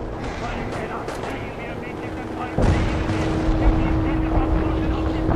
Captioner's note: speaking in foreign language